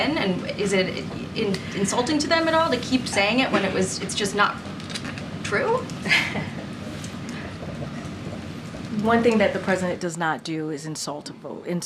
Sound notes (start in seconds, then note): 6.0 laughs